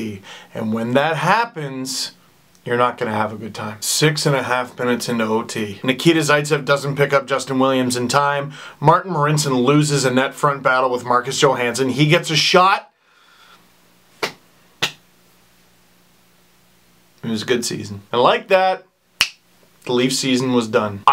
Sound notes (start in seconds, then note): 14.2 sad clap